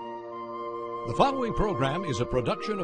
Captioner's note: voiceover